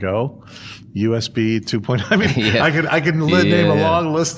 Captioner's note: laughter